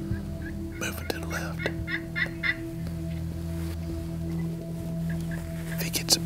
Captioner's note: whispering